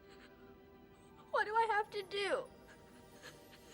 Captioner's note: tearfully